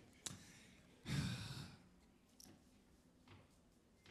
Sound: sighing

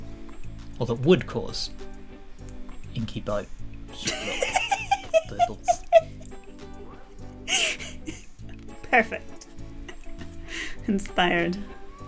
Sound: laughter

